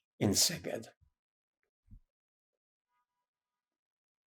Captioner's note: pauses 8 seconds